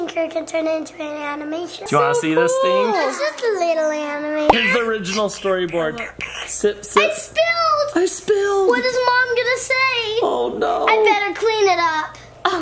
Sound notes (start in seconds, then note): 4.5 storyboard pops; 6.3 slurping